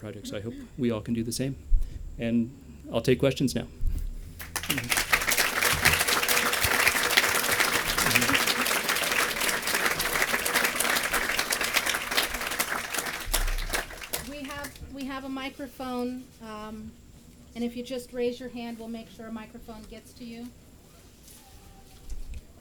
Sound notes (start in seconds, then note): 4.4 applause